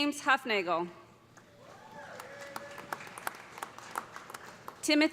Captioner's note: cheers and applause